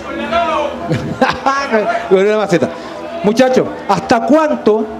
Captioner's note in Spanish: Respuesta público